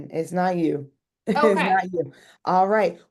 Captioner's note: laughing